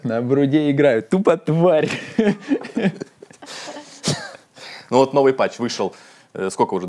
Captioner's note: laughs